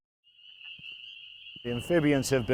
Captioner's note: insects chirp